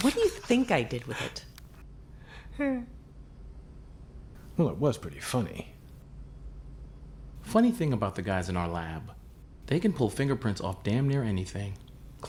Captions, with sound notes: What do you think I did with it? (Chet chuckles) - Well, it was pretty funny. - Funny thing about the guys in our lab, they can pull fingerprints off damn near anything;